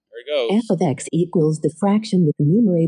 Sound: automated voice

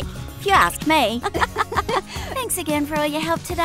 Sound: both girls laugh

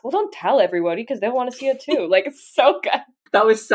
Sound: laughing

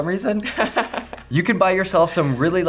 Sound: laughs

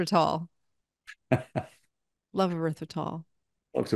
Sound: laughs

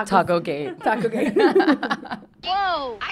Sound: laughs

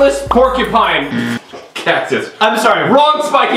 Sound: buzzer

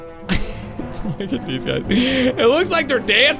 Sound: laughs

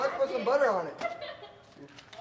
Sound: laughter of the souls forgotten

